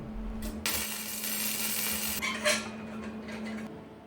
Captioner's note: welding sound